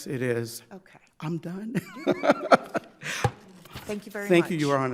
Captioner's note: laughs